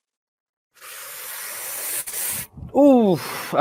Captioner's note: strong breathing